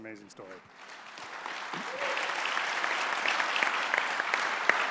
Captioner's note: audience applauding